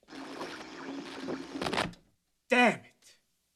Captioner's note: static